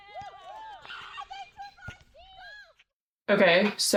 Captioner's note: players holler excitedly